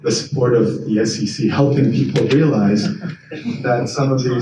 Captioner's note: attendees chuckle